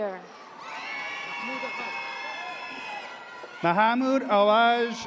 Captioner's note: audience cheers